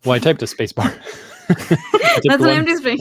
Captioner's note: laughter